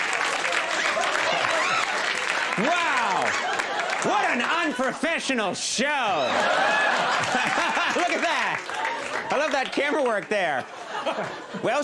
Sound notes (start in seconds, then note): 5.8 audience laughs